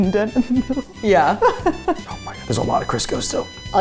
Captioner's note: laugh